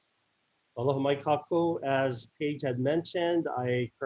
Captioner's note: speaks in native language